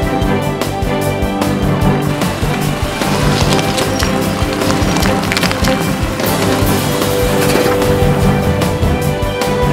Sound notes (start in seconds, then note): 2.4 drilling